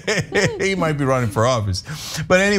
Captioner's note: laugh